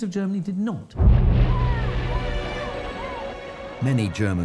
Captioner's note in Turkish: kalabalık tezahürat